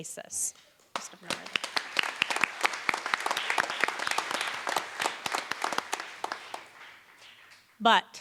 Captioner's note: applause